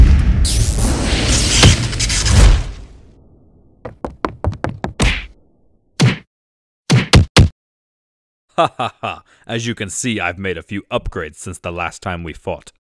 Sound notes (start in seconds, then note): 0.1 flaming sounds; 0.2 eletrical sounds; 1.5 thud; 3.8 running footfalls; 5.9 thudding sounds